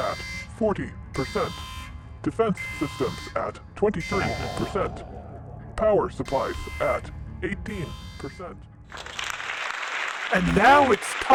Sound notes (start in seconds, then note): 6.3 evil laugh; 6.8 dramatic music